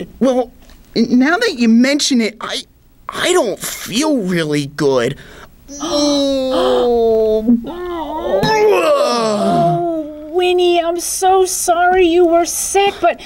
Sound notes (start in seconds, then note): 5.4 about to vomit sounds